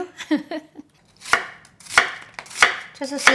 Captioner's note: laughs